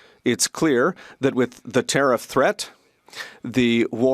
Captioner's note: speaking French